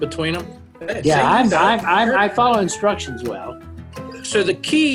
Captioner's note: laughing